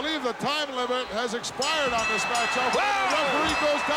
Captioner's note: bell ringing